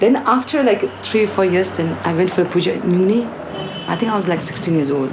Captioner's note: prayers